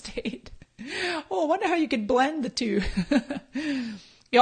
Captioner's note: laughs